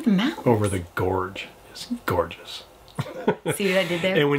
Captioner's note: laughs